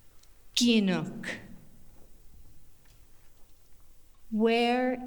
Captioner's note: In Mi’kmaq